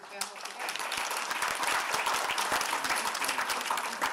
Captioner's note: applause